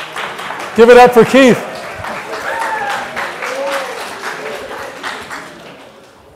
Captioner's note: applause; applause continues